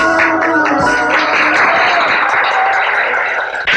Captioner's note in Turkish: Alkışlar